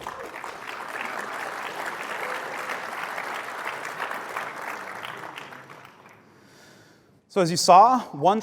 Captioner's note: applause